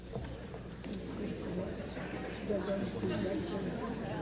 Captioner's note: audience murmur